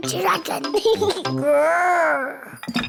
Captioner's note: giggles, growls